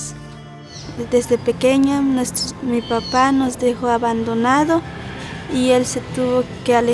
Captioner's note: speaking in foreign language